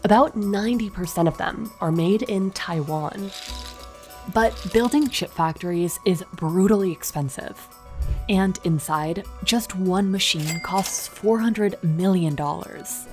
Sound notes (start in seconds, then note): 3.0 graphic clattering